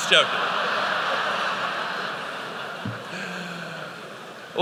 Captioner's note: laughter